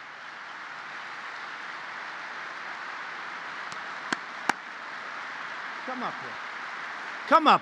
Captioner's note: applause